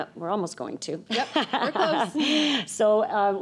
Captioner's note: laughs